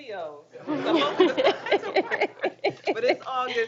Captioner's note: group chuckles